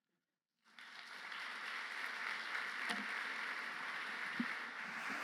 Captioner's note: applause